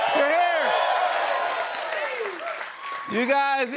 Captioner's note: cheers and applause